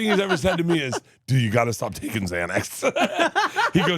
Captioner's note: laughs; chuckles